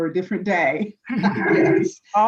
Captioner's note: chuckling